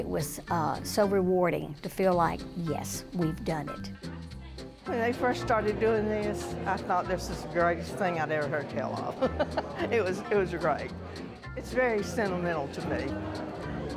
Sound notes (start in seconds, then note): 9.2 laughs